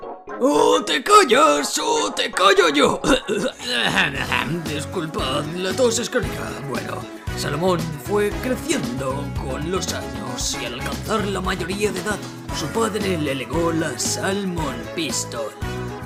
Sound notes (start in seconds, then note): 2.9 clears throat